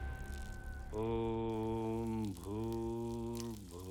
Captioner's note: humming